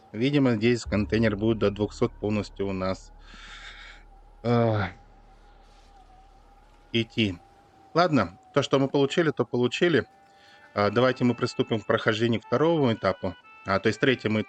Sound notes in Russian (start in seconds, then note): 3.2 тяжело вздыхает; 5.7 вздыхает